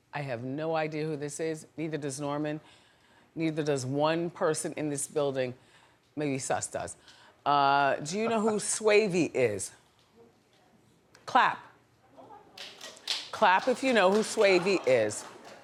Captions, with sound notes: I have no idea who this is. Neither does Norman. Neither does one person in this building. Maybe Suss does. Do you know who Swavy is? Clap. (audience clapping) Clap. If you know who Swavy is.